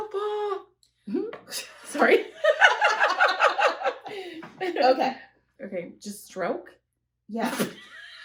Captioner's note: laughter; laughter